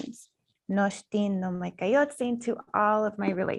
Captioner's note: speaking in foreign language